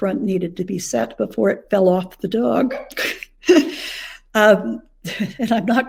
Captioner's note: chuckles